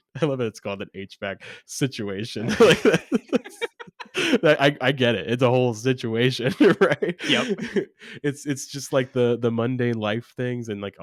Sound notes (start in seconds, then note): 2.4 both laughing; 6.4 laughs